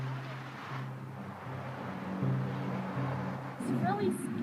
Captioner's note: traffic roars